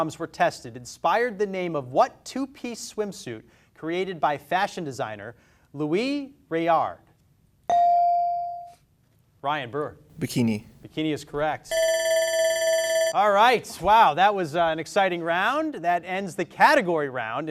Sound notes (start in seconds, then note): 7.2 beep; 11.7 alarm rings